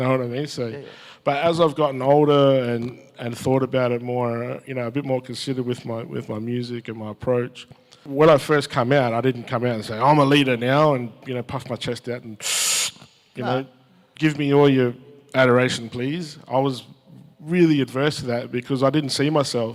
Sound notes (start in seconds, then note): 12.4 makes breath in sound